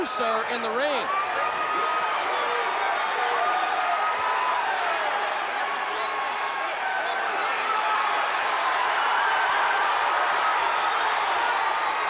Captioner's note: crowd cheering